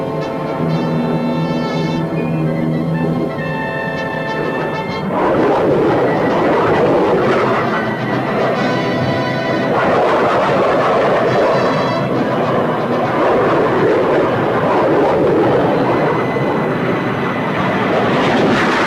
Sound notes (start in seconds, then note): 0.8 plane engines roaring; 4.8 plane engines revving